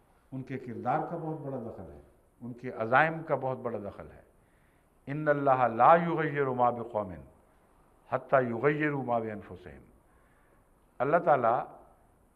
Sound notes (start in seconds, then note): 5.1 Arabic